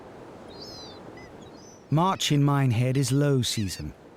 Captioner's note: seagull screeching; water splashing; seagull screeching